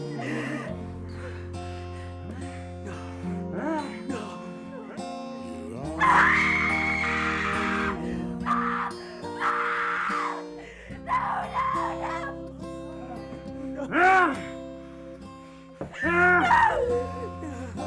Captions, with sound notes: [gasping] no, no, no! [whimpering] - [shrieks] Mom, Mom, no, no, no! - No, no! [assailant grunting] [sobs] No!